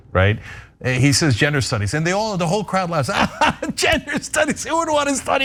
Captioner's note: laugh